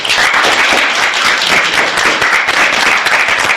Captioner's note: applause